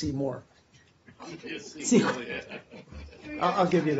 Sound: laughter

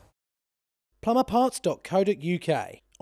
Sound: voiceover

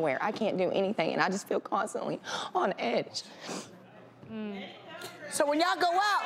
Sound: sniffling

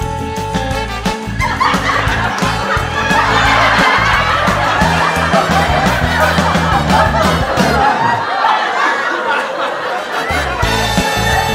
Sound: laughter

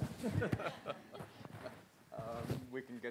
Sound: laughs

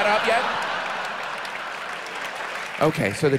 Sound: audience laughs

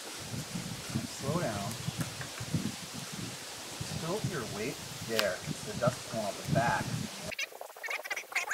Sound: background talking

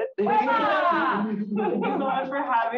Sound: audience laughs

